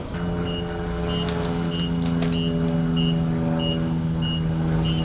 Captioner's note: airplane buzzing